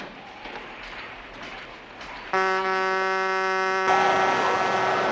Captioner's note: truck Horn Honking